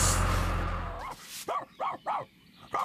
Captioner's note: sweeping Noises